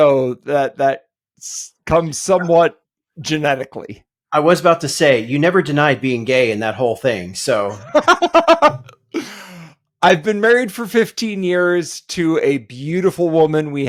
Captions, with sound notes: So that comes somewhat genetically. I was about to say, you never denied being gay and that whole thing. (laughing) I've been married for 15 years to a beautiful woman.